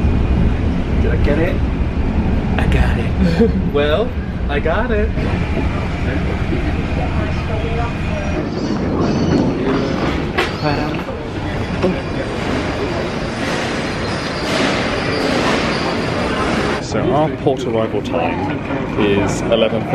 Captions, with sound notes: - Did I get it? I got it. - Well, I got it. (people chattering) (birds squawking) (objects banging) So our port arrival time is 11:30 AM.